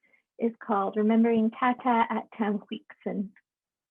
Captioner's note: speaking native language